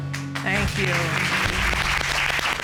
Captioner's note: applause